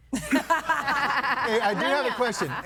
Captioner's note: guests laughing